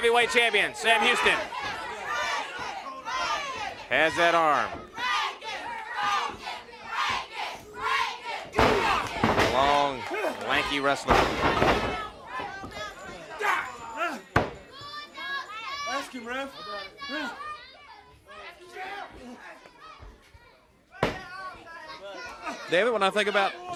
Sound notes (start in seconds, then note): 2.0 crowd chatter; 8.7 crowd chatter; 11.3 crowd cheering; 15.4 crowd cheering